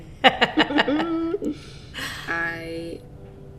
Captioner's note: both laughing